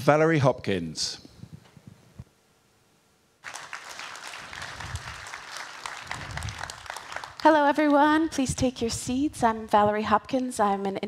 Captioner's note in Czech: Potlesk